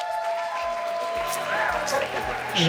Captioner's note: cheering